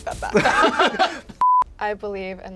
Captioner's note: laughter